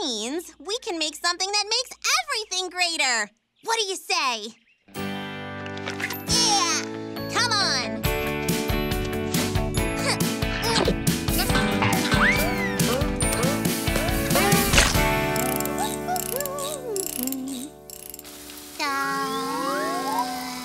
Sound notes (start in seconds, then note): 11.4 chomping; 14.6 humming cheerfully; 17.8 exhaling dreamily